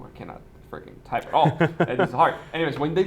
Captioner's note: laughing